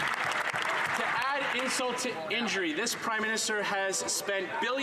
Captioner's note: some Applause